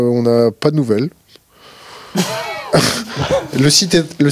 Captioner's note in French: rires